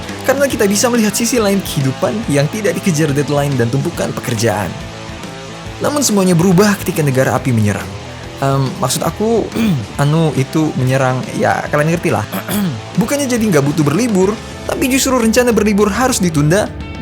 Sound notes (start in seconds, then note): 12.2 clear throat